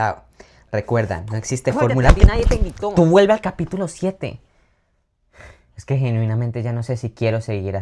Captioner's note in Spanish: resoplido